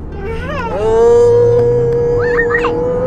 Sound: vroooooooooooom

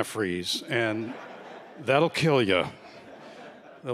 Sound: laughter

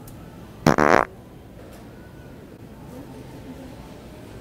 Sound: farting noise

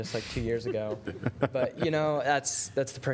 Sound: laughter

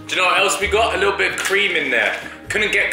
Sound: liquid pours

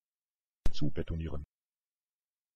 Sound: fast Pronunciation

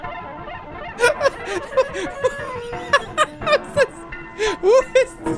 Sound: sped-up horn music; laughs

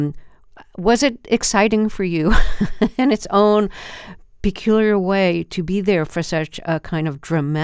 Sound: laughter

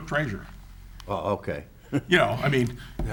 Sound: chuckles

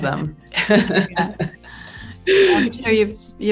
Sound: laughs

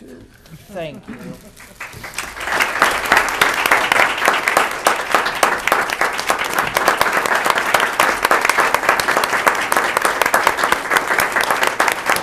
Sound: applause

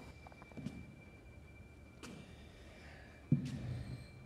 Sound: footsteps and tired breathing

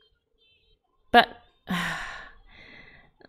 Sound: sighs

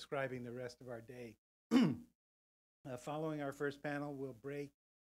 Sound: cough

